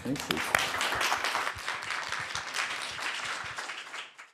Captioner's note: applause